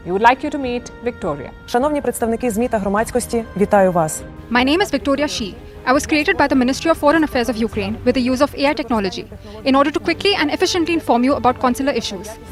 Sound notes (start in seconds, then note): 3.0 speaking in foreign language